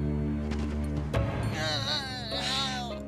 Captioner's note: groaning; sighs